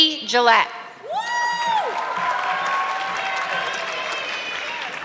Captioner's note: audience clapping